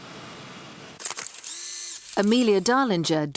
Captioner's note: camera clicks